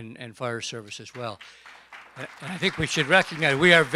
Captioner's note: applause